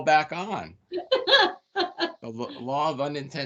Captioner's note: laughing